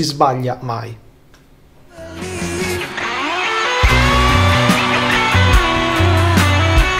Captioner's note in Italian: Applauso